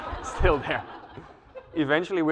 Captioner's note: laugh